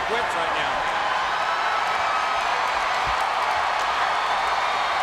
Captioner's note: spectators cheering